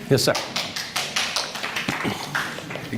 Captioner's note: applause